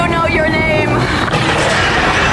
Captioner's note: snarling